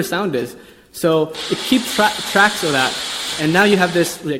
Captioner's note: blender burring